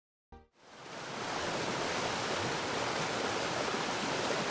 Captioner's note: water flowing